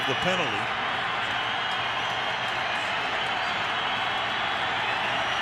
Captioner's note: cheering